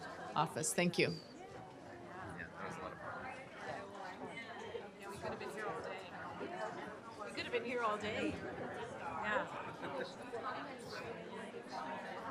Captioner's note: chatter